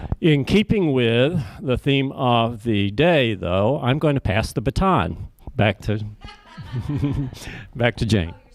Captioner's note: laughter